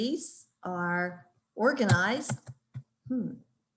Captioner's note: keyboard cluttering